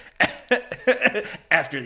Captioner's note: laughing